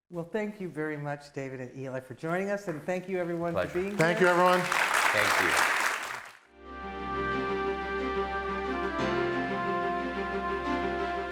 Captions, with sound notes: - Well, thank you very much, David and Eli for joining us. And thank you everyone for being here. - Thank you everyone. - Thank you. (audience clapping) (soft music)